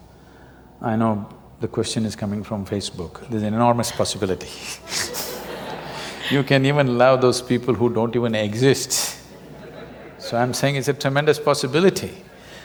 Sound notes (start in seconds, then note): 4.9 laughter; 9.3 laughter